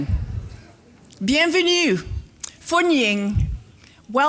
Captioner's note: foreign language